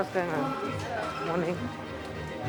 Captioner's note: indistinct chatter